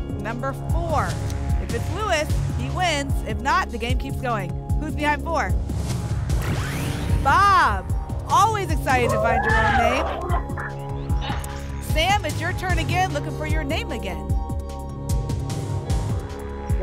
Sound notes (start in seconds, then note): 9.1 applause and cheering